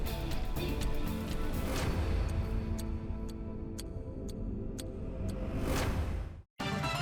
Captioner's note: clock ticking; upbeat music